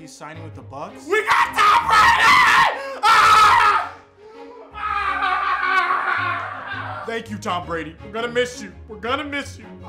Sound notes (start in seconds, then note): 1.3 screaming